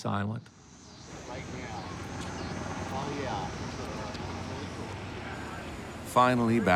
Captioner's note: people talking in background